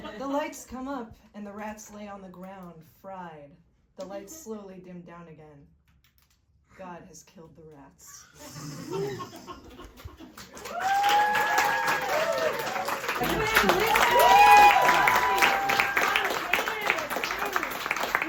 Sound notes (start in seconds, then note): 8.6 audience laughs; 10.2 audience applauds and cheers